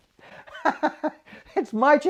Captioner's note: laughs